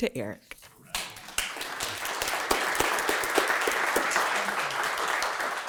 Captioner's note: audience clapping